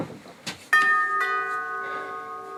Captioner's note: doorbell